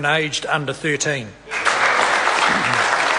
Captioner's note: applause